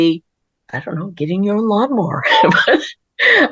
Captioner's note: laughter